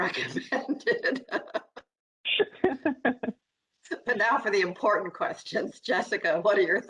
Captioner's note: laughter